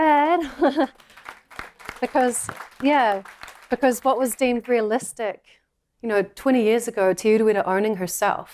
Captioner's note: applause